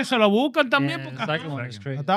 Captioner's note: speaking Spanish